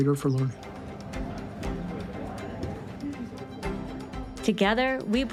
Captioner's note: background chattering; bright music